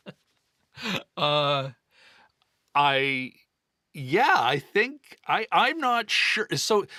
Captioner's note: laughing